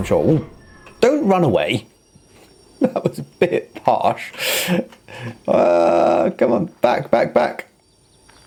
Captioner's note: clank